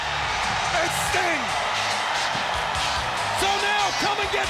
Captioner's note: audience cheering